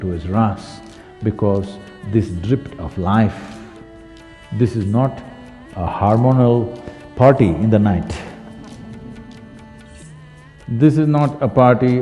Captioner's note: few laugh